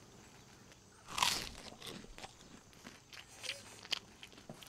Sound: chewing food

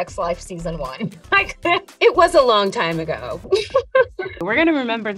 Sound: chuckling

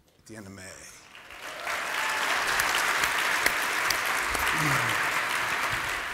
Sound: applause

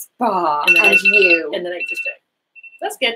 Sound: alarm ringing

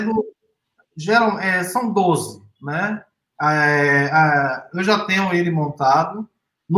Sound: speaks portuguese

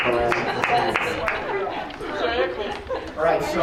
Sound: all laughing

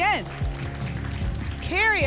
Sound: applause and cheering

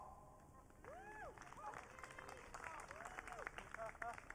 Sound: audience cheering

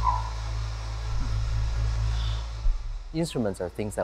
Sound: instrument hissing

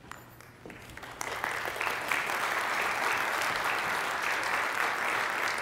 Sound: congregation applauding

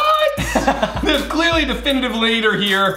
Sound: laughing

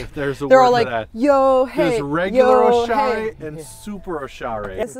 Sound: chanting

